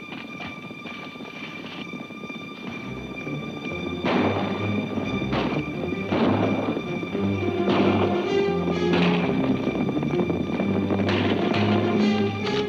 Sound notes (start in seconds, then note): 2.8 guns bang; 2.8 hooves clomp